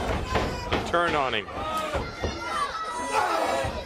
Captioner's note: crowd chatter